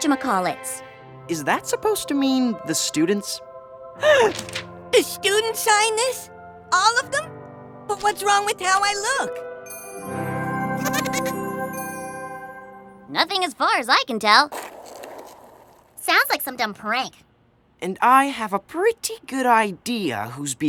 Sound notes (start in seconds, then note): 4.0 gasps; 10.8 elfish giggle